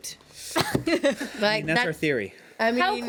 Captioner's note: women laugh